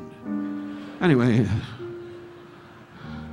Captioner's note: audience laughing